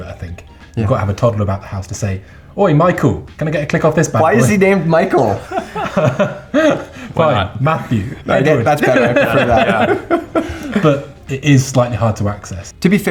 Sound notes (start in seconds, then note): 5.8 laughing